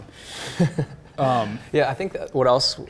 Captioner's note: laughs